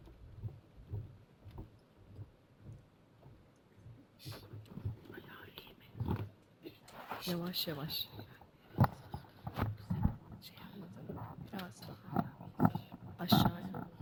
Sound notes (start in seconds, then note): 4.8 non-english speech